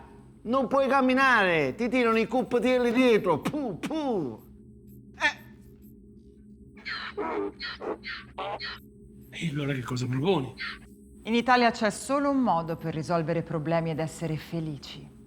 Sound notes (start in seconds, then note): 3.3 spitting sound; 6.8 Donkey's bray